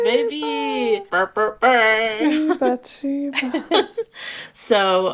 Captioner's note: mimicking tuba sounds; laughing